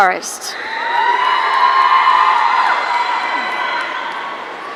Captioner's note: audience cheering